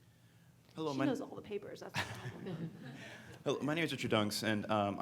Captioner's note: speaking faintly; laughing